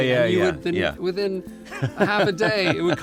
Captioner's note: laughs